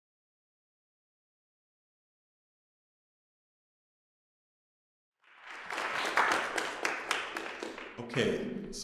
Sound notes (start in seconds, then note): 5.2 applause